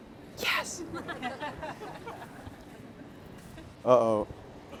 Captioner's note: all laughing